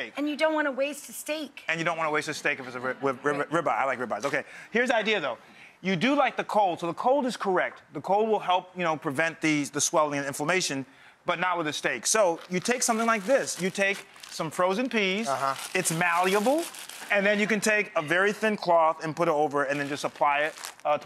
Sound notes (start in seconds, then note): 15.0 bag rustles